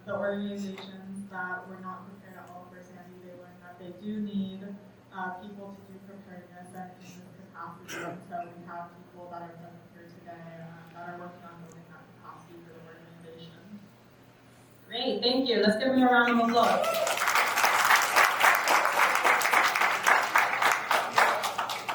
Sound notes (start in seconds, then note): 16.5 attendees cheers and applauds